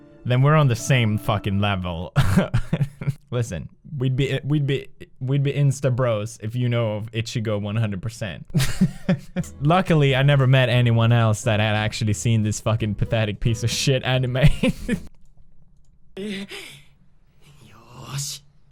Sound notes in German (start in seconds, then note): 2.2 lacht; 8.4 lacht wieder; 14.5 lacht wieder